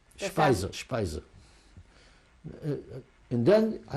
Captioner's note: non-english